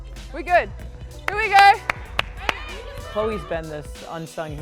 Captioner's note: clapping